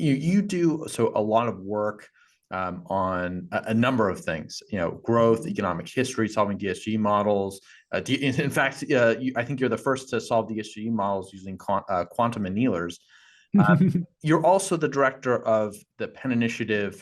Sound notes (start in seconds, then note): 14.2 laugh